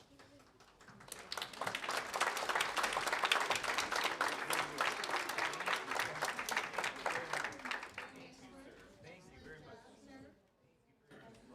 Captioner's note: applause